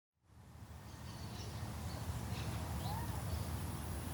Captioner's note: birds chirping